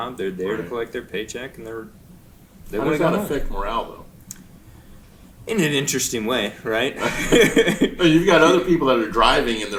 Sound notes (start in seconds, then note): 7.0 chuckling